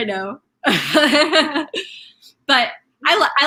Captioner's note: laughing